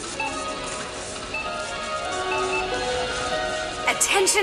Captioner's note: beeping